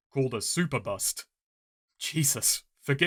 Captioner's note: none